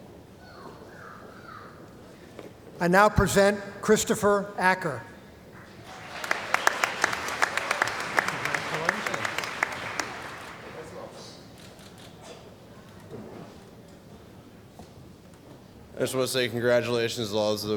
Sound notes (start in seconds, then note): 5.6 applause